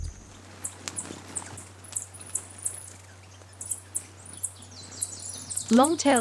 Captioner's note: bird chirping; bird's wing flapping; birds chirping